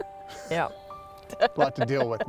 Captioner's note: laughs